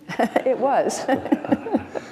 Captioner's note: laughs